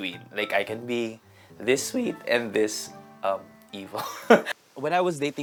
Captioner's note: chuckles